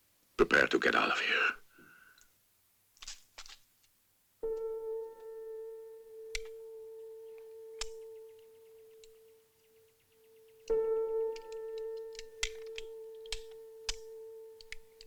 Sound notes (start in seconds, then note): none